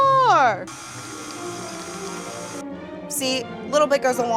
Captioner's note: mixer whirring